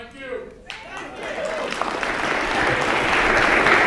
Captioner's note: applause